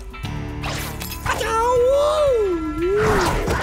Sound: grunting

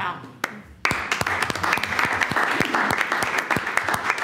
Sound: all applaud

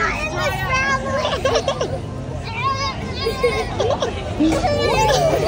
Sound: laughing in background

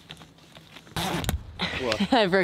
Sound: zip crackling

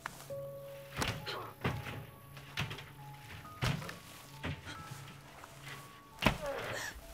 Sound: sounds of fighting

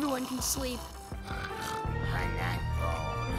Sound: snoring

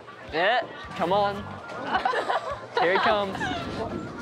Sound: laughter

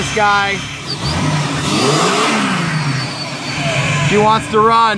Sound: engine revs

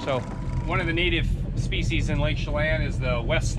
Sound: boat engine idling

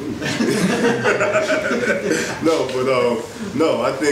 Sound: audience laughs

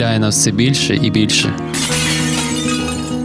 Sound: falling Plates crashing

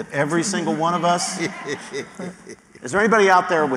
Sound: laughter

